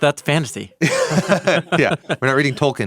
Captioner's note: both laughs